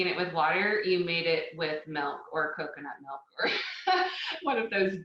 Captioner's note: laughing